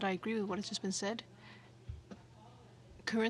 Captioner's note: speaking French